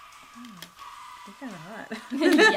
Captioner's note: laughing